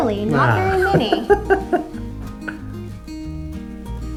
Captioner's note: laughs